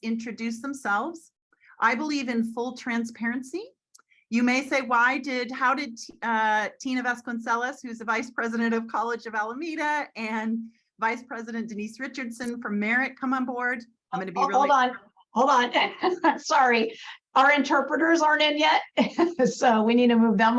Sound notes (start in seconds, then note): 15.7 laughs